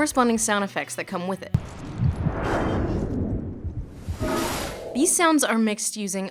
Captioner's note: heartbeat and lava sounds